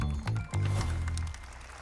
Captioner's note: applause